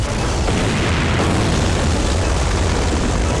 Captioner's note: Explosion